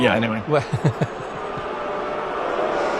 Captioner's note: booing